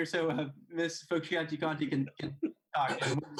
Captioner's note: laughing; laughs